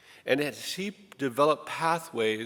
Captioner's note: none